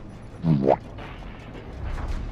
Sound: boo-womp Sound effect

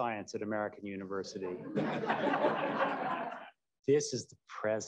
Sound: laughter

